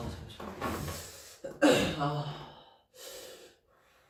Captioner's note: clears throat